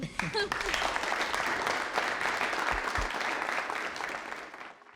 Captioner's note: crowd applauding